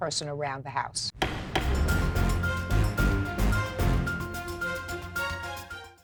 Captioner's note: intense music; gavel smacks